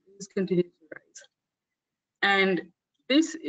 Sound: audio static

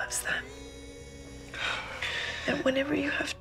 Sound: exhales shakily

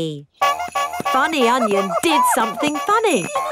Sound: shoes honking

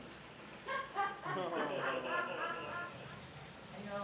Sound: trainers laughing at adorableness

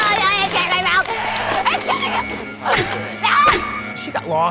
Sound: siren alarms

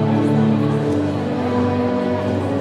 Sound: none

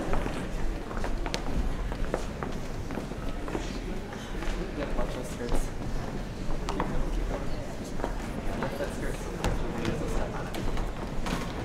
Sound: general chatter

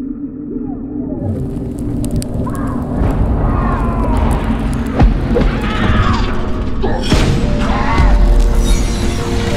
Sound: sounds of battle, accompanied by screams

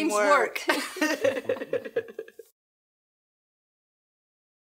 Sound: laughing

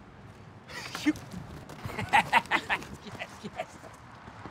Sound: laughs

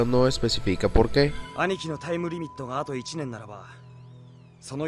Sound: in Japanese

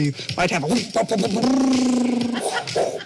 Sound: imitates helicopter noises; people imitating helicopter noises

